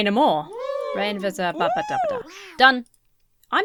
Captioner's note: mumbles